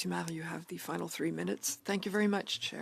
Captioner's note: speaking French